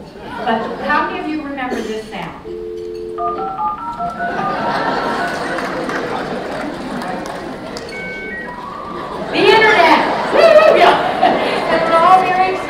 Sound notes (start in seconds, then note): 0.2 laughter; 4.2 laughter; 4.7 applause